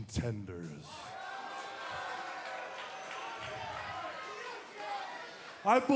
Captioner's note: cheers and boos